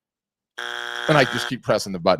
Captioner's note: buzzer beeps